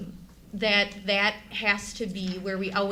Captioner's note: none